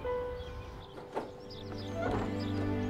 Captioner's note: Door opening